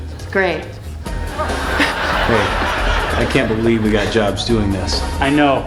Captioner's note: laughter